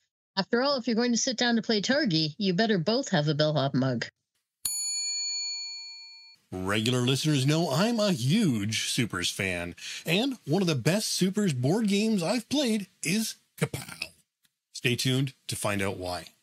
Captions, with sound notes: After all, if you're going to sit down to play Targi, you better both have a bellhop mug. (bell dings) Regular listeners know I'm a huge Super's fan and one of the best Super's board games I've played is "Kapow." Stay tuned to find out why.